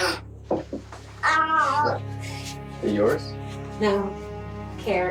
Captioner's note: child babbling